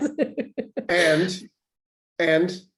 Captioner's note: laughs